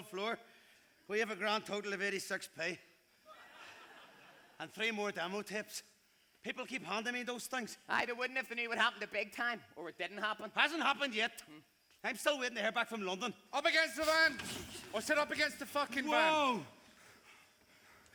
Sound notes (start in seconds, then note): 13.2 English accent